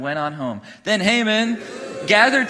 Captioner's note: congregation booing